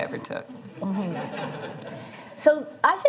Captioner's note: laughter